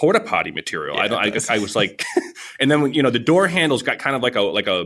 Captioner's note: laughs